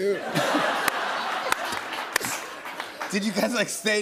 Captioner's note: laughter